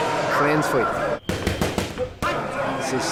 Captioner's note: grunting